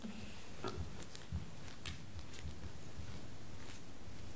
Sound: footsteps, rustling

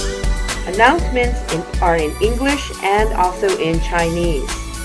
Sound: Mandarin

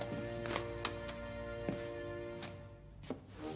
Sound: switch clicks

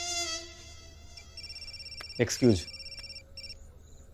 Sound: phone ringing

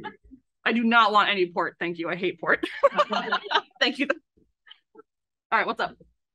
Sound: laughs

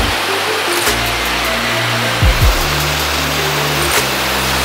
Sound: board scraping against ground

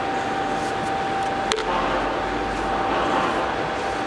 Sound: machine whirring, distant voices

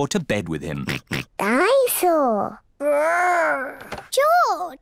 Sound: oinks

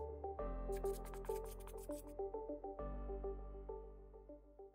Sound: scribbling

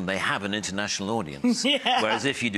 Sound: laughs

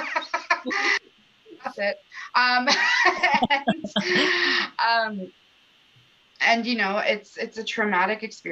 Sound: laughter; laughter

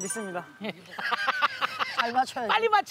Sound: haha

